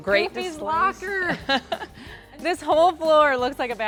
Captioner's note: laughing